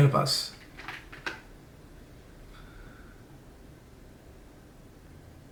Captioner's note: computer mouse and keyboard click